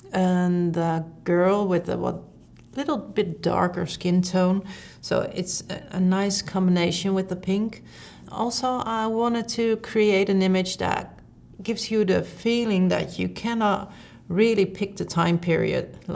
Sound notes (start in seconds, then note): none